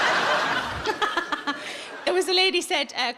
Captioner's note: audience laughs; Sarah laughs